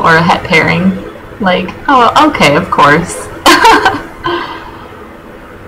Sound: laughing

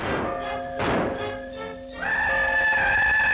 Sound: whistling; bell ringing

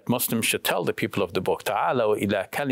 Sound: speaks in Arabic

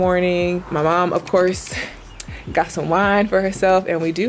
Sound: chuckles

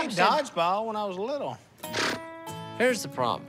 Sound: scoffs

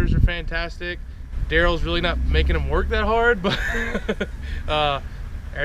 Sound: laughs

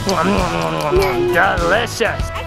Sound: laughs; chewing

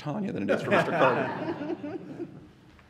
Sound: laughter

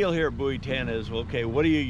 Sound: boat engine idling

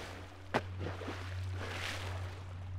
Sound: splash

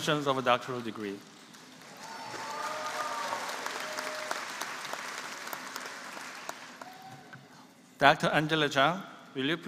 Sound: applause

